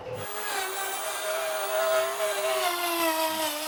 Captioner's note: drill sound